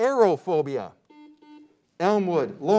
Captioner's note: beep